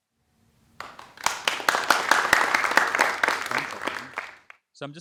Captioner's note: audience clapping